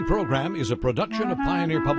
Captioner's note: soft music; voiceover